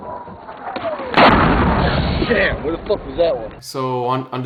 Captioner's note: explosion booming